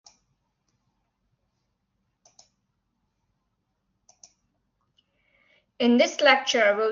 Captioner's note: silence